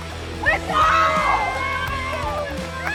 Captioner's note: cheering